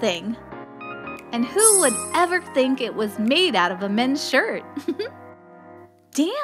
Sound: chuckle

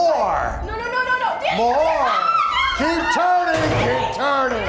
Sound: screams

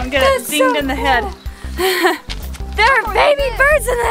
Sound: laughing

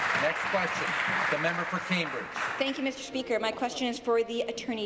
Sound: applause

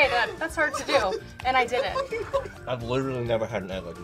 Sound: both laugh

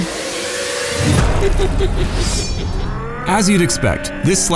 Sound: Chucky laughs

